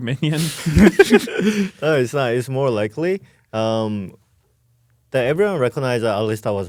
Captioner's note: laughs